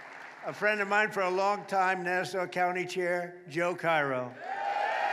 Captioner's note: applause